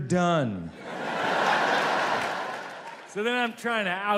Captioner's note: audience laughs